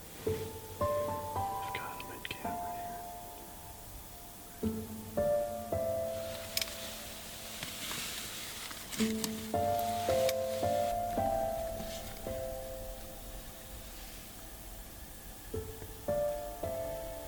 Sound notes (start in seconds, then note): 1.8 whispers; 4.8 soft somber music